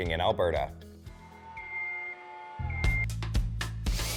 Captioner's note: beeping